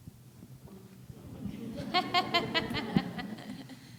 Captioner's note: laughing